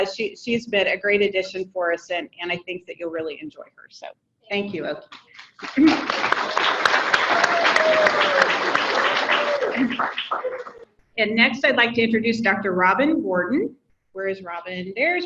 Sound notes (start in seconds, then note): 5.1 audience clapping